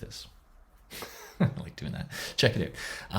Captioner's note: laughs